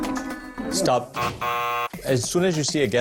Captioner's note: buzzer sounds